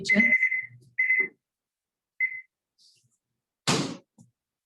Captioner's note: alarm ringing